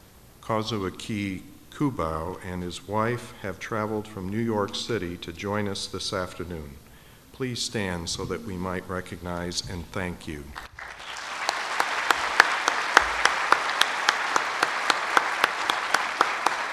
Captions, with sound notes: Kazuaki Kubo and his wife have traveled from New York City to join us this afternoon. Please stand so that we might recognize and thank you. (audience applauds)